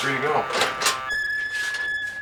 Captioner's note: door creaking; door buzzing